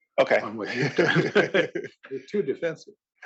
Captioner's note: laugh